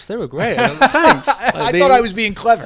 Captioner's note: laughs